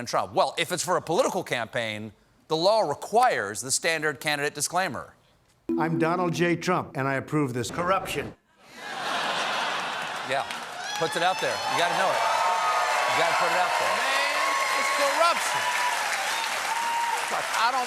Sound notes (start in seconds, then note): 14.4 applause